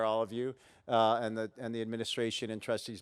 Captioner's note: none